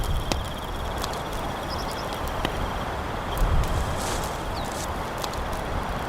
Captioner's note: fire crackling